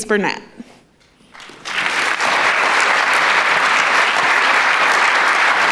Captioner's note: applause